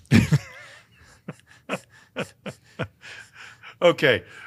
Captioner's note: laughing